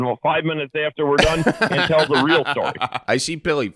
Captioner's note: laughing